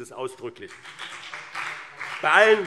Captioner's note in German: Beifall BÜNDNIS 90/DIE GRÜNEN und CDU - Zurufe AfD